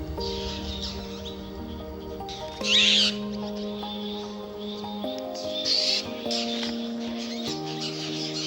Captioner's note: birds screeching